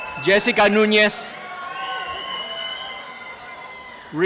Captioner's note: applause and cheering